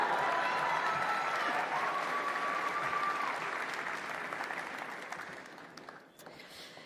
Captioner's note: applause